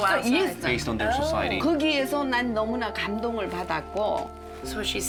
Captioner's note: speaking Korean